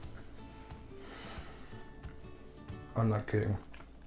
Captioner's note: exhales